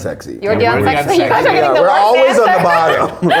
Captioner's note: laughs